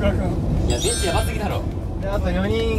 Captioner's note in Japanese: 効果音 ✨キラーン✨